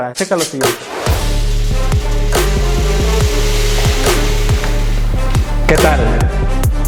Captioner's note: smoke machine sound